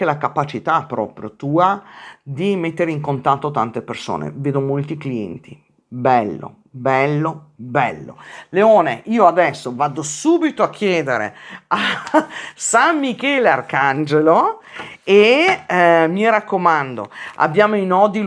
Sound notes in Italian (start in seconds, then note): 11.8 risate